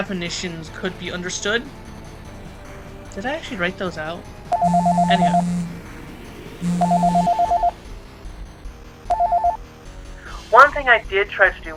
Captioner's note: ringing of a Phone